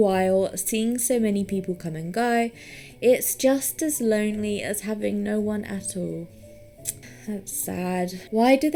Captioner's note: tuts